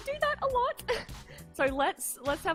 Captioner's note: laughs